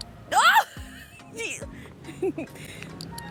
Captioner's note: laughs